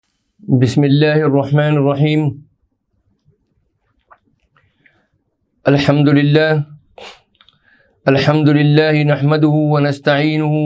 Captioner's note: introductory sermon in Arabic